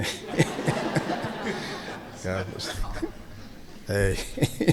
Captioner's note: laughing